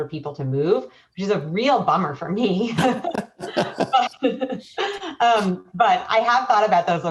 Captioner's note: laughing